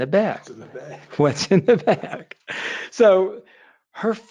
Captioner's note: laughing